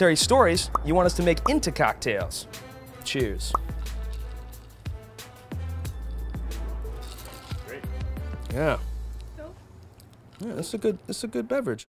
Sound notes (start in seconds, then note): 3.5 popping